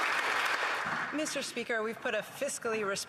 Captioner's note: applause